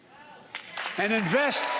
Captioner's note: applause